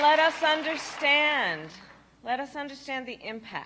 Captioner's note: applause